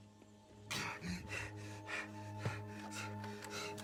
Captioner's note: panting